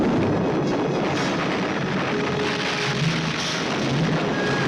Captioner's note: suspenseful orchestral music; rocks crumbling